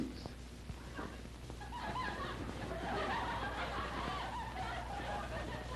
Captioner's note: laughter